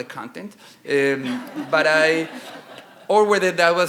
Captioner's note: audience chuckling